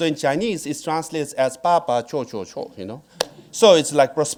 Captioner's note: speaking in foreign language